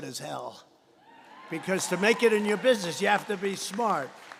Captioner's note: applause